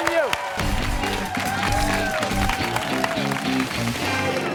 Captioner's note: cheers and applause